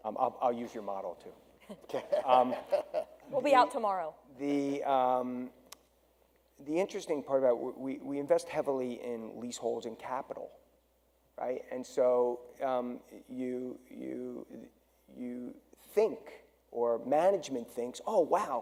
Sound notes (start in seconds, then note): 1.7 panel laughs